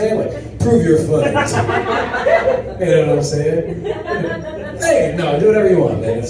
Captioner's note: audience laughs